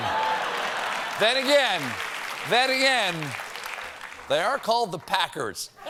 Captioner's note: applause